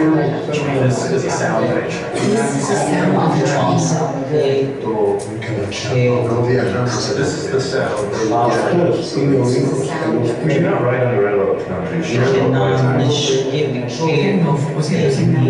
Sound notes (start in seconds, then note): 2.0 overlapping Multiple languages repeating the phrase This is the sound of a trai; 4.6 foreign language; 9.7 foreign language